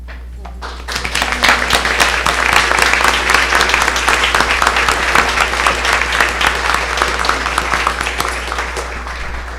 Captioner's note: applause